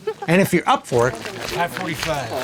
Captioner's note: male Voice